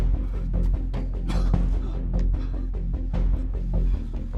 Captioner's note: coughing